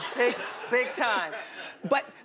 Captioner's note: laughing